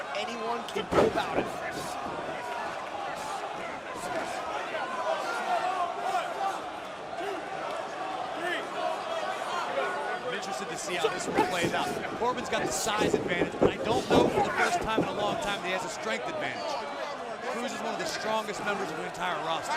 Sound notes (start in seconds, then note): 2.3 crowd chatter